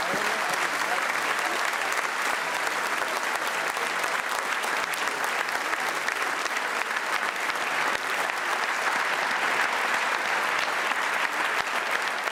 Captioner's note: applause